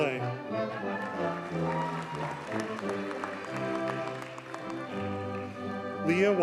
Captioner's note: audience cheers and applauds